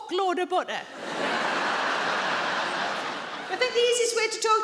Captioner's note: audience laughs